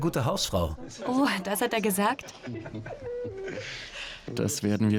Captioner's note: Charles laughs loudly